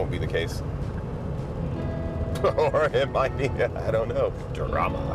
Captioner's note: laughing